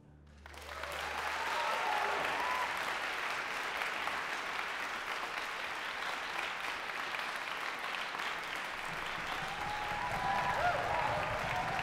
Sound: applause

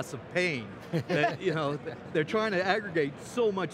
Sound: laughing

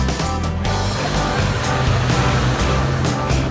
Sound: sound of engine

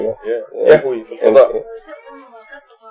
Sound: speaking Arabic

